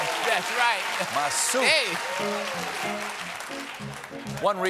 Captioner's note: cheers and applause